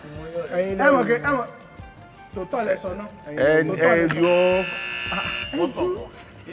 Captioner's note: buzzer pressed again